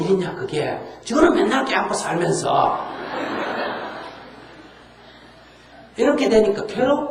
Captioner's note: audience Laughter